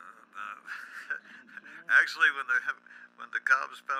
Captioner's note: laughs